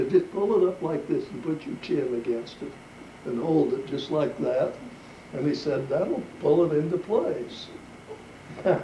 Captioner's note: laughs